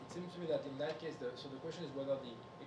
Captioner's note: speaking faintly